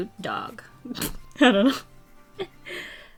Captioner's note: snorts